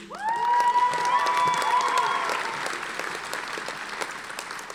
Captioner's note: audience applauding